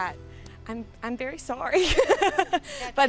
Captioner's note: laughs